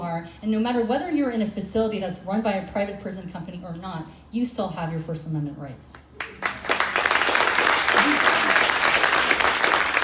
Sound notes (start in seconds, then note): 6.2 crowd applauding